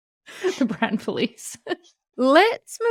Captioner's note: laughing